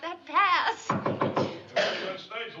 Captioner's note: knocking